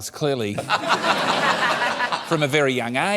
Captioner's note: laughter